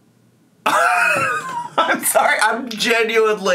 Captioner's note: laughs